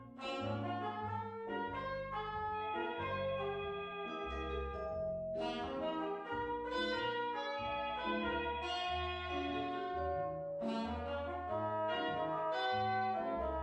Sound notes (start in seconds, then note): 1.6 phone ringing